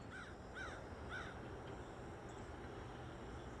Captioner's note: graznidos